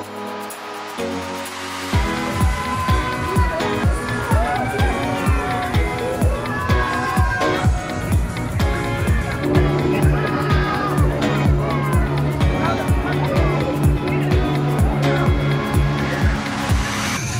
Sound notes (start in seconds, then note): 4.7 screaming